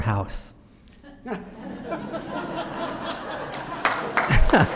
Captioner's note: laughter; applause